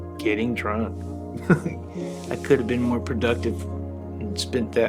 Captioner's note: chuckles